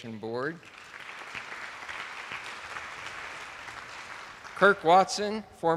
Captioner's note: attendees applauding